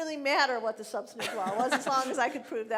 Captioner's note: laughing